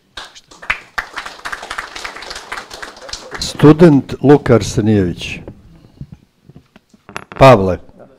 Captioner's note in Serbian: аплауз